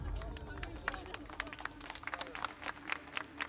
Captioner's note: indistinct chatter